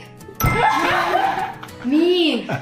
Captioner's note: sigh of relief